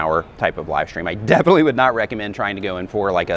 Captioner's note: laughs